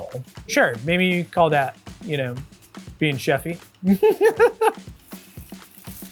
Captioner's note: laughs; energetic upbeat music continues